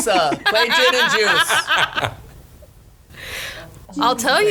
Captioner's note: laughs